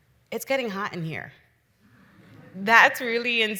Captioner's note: audience chuckles